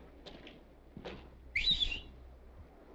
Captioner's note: whistling